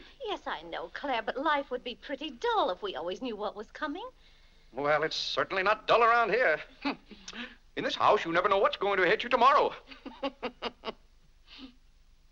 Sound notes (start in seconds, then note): 9.9 laughs